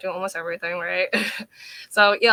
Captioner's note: chuckling